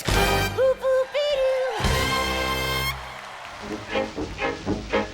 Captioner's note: cheers and applause